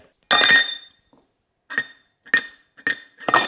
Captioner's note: metal clanging